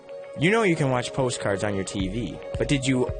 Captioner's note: voiceover